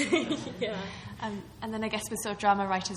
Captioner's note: laughing